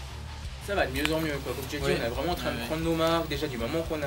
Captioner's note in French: Swiss accent